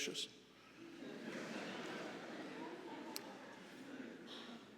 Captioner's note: audience laughing